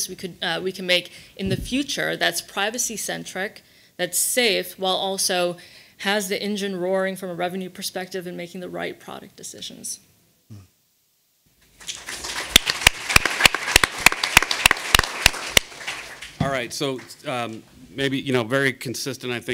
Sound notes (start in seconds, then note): 11.7 audience applauding